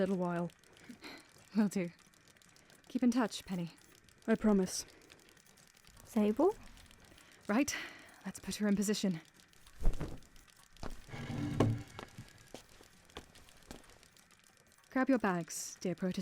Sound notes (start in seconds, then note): 9.1 fabric rustles; 10.9 project is dragged across floor